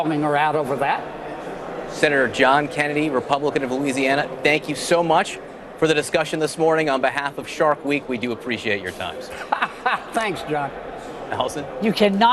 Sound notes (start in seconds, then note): 9.3 laughter